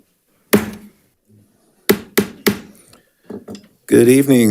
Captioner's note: hammer slamming